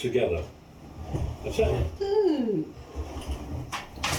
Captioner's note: sliding wood sound